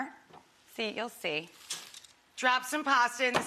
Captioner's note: pasta clinking